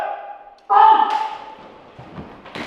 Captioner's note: gunshot